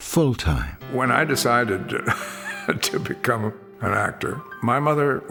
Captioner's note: laughs